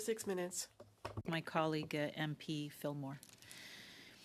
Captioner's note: speaking French